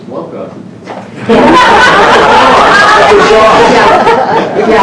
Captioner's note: laughter